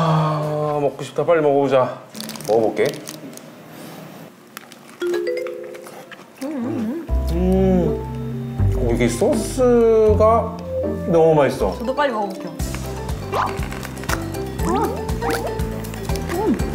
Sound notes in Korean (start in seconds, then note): 14.6 앙!